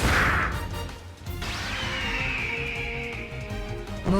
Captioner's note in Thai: เสียงกรีดร้อง